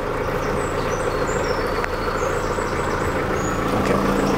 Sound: boat engine roaring

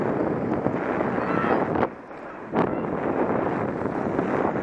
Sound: indistinct cries

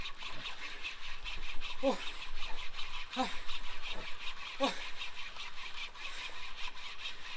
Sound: exhaling sounds

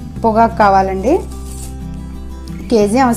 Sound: polyethene cover sound

